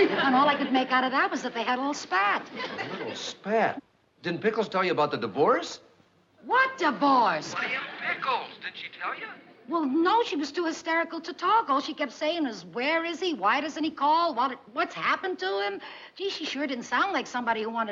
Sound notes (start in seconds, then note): 7.4 on phone